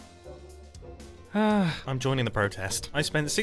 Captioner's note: sighs